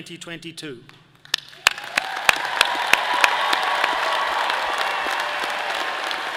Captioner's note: all cheering and applauding